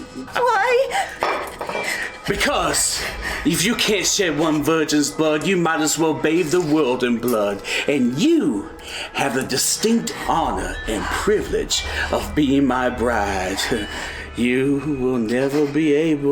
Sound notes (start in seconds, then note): 1.1 wine slammed down